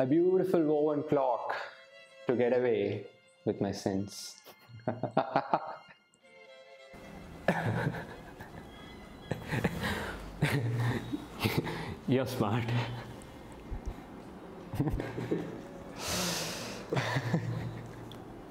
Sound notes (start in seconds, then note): 13.0 laughs